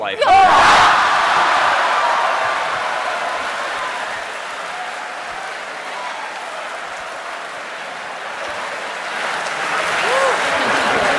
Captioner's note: cheering and laughter